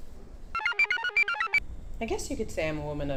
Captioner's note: computer chirps